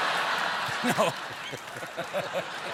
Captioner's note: laughter